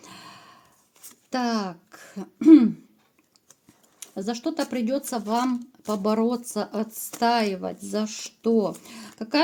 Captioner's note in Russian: откашливается